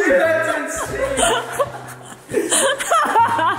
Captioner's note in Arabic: يضحك